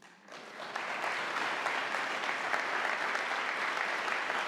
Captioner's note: audience applauding